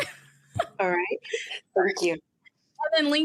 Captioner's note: laughs